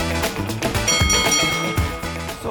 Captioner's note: boxing bell clangs